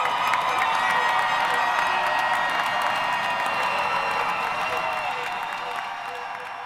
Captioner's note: applause